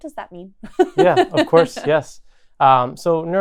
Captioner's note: laughs